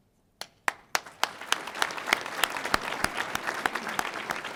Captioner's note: audience applauding